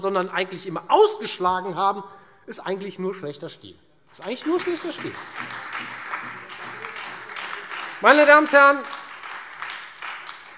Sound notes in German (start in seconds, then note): 4.1 Beifall Freie Demokraten und vereinzelt SPD